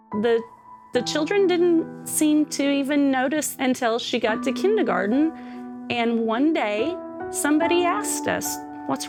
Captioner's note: none